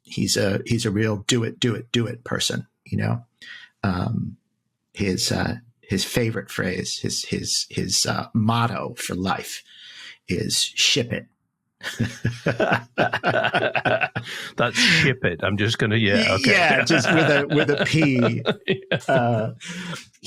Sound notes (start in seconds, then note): 12.0 laughs